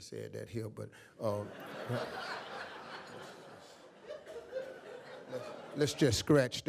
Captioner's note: audience laughs